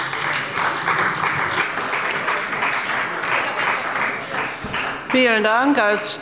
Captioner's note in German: Beifall bei dem BÜNDNIS 90/DIE GRÜNEN und der CDU